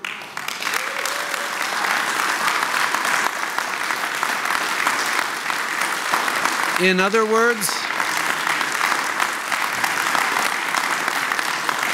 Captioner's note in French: Applaudissements